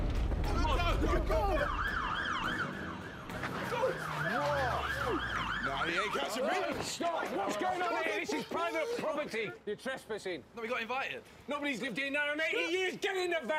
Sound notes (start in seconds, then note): 0.6 sirens wailing